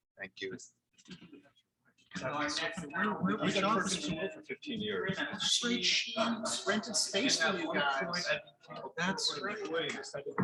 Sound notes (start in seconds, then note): 2.6 people chattering indistinctly; 6.1 people chattering indistinctly